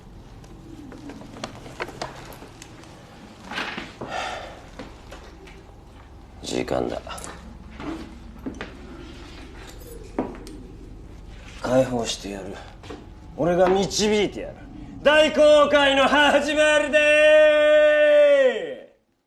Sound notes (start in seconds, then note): 3.6 sighs; 6.6 grabs pocket knife, takes footsteps